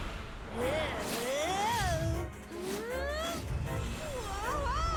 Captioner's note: both groan